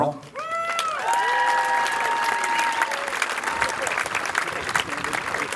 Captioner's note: crowd cheering